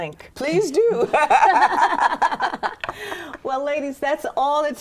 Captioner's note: all laughing